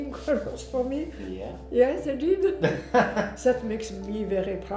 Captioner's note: laughs